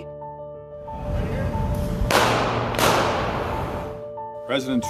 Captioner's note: gunshots